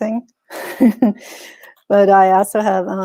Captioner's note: chuckles